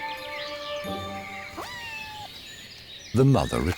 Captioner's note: wildcat meows